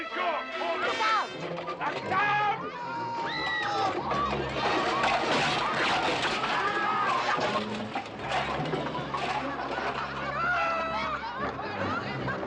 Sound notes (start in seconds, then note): 2.6 all screaming; 3.6 crashing, clattering; 4.0 yelling; 8.8 laughing